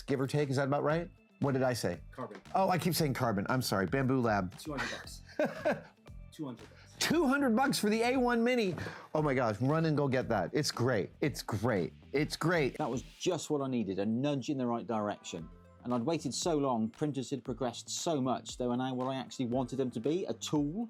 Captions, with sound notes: give or take, is that about right? What did I say? Carbon. Oh, I keep saying carbon, I'm sorry, Bambu Lab. 200 bucks. (laughing) 200 bucks. 200 bucks for the A1 Mini? Oh my gosh, run and go get that, it's great, it's great, it's great. That was just what I needed, a nudge in the right direction. And I'd waited so long, printers had progressed so much they they were now what I actually wanted them to be a tool,